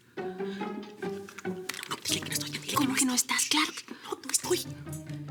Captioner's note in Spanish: En voz baja